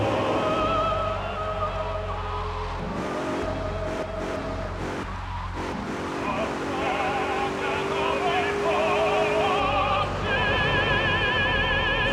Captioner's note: engine roaring